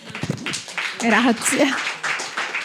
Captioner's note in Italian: Applauso